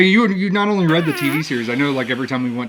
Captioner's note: whoopie cushion sound effect